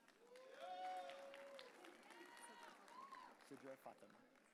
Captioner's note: audience cheering